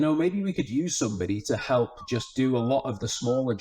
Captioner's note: person whistling